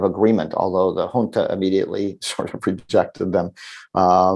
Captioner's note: chuckles